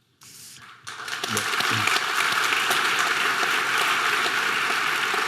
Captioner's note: audience applause